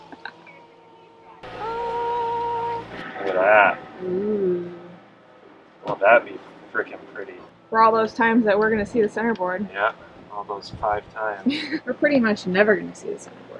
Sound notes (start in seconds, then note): 1.1 machine engines roaring; 11.6 laughing